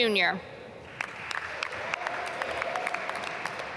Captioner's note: applause